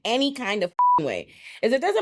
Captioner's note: beep